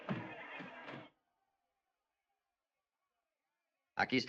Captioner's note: townsfolk clamoring